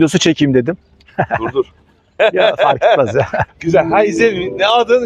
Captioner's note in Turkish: kahkaha